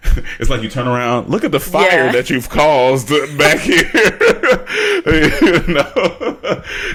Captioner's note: laughs